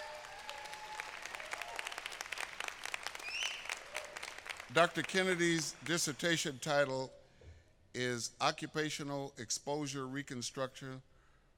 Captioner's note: applause